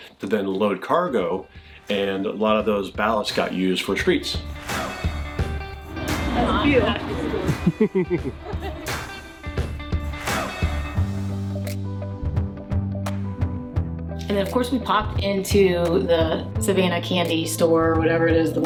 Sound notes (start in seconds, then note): 4.5 upbeat music; 7.4 laughs